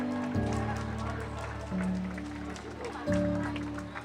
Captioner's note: crowd cheers